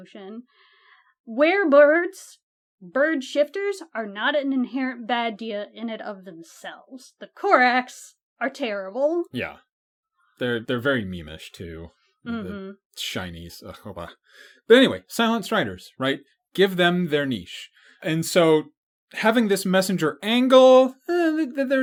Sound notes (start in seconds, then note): 12.3 annoyed sounds